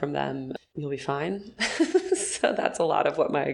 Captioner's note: laughing